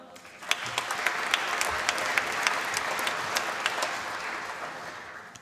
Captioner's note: applause